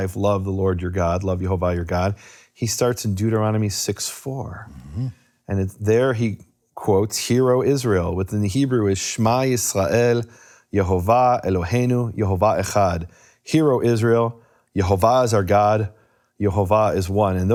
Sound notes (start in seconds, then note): 8.8 speaking in foreign language